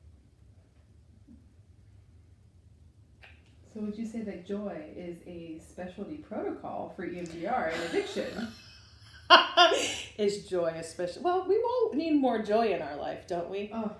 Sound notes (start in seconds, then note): 7.7 laughs